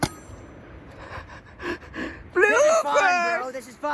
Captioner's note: phone dings; chuckles